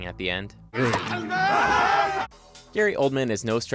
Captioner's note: dwarfs cheering